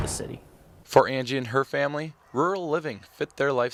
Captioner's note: voiceover